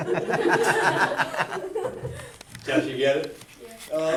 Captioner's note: chuckles; class laughs